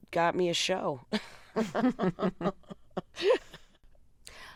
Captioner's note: laughter